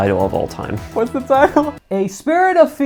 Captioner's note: laughs